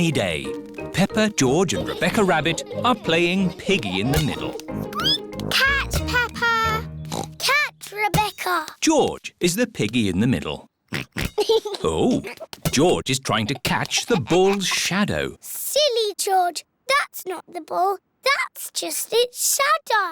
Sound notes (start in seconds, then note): 4.5 squeaks; 7.0 oinks